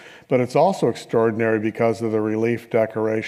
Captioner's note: none